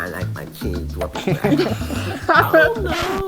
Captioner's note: both laughing